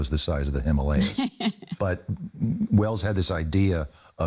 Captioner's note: chuckles